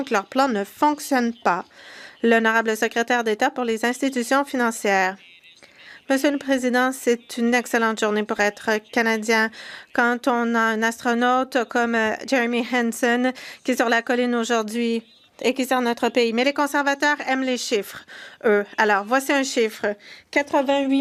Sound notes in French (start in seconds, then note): 8.1 voix de l'interprète